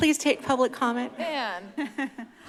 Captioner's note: laugh